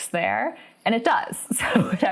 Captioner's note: laughs